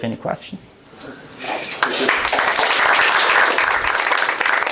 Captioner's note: applause